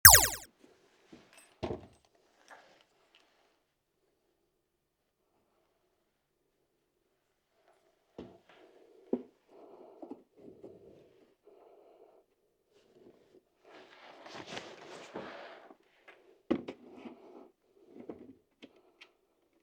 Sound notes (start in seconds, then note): 2.0 silence